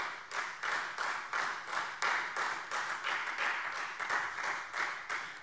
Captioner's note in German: Beifall Freie Demokraten